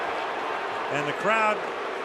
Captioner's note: crowd booing